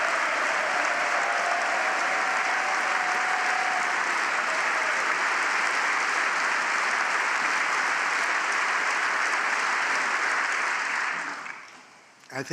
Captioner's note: applause